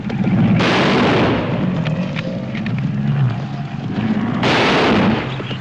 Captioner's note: gunshots